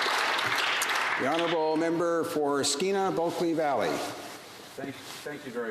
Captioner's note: applause